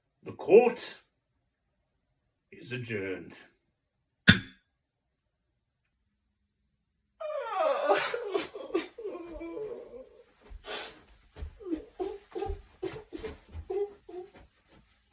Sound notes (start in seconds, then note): 4.3 gavel; 7.2 PAYNE cries